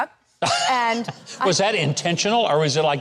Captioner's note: laughs